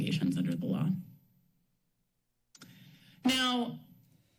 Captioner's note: pause